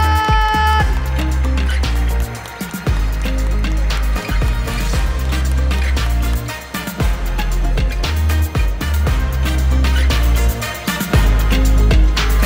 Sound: applause; ♫ Midtempo guitar music ♫

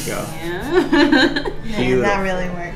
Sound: laughter

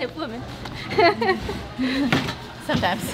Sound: nervous Laugh

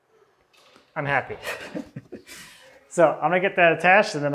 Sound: laughs

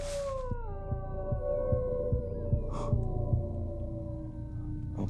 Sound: pulse sound fades in and out

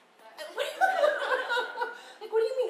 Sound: laughing

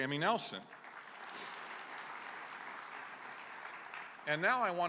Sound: applause

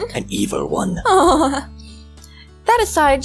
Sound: laughs

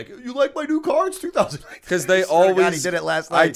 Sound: chuckle

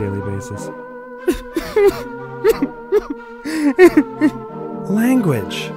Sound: crying

